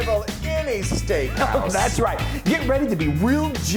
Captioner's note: chuckles